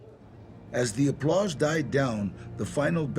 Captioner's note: in English